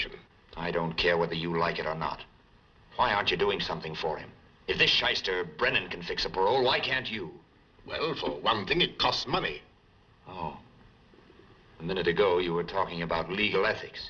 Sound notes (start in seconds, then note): none